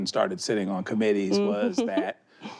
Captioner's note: chuckles